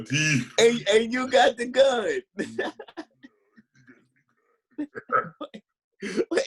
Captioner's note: laughing